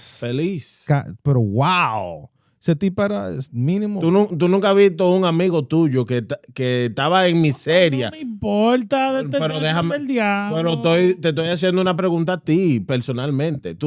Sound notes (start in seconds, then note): 2.6 speaking In Foreign Language